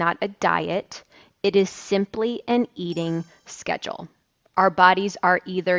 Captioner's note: bells chiming